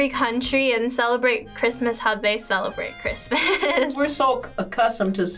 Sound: laughs

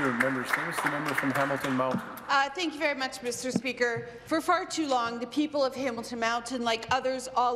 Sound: some applause

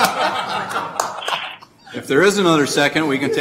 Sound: laughing

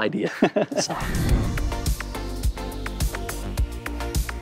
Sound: both laugh; upbeat music

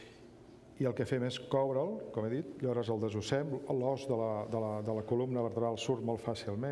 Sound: speaking catalan

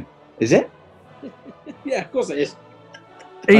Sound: chuckling

